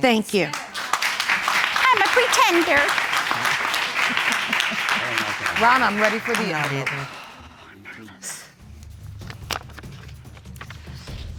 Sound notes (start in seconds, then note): 2.7 mocking